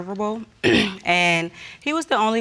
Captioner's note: clears throat